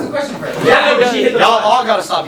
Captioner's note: yelling